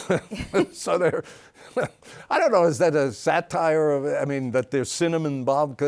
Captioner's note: laughs